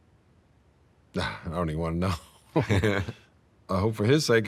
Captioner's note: chuckles